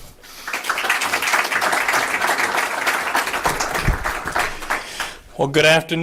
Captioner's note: applause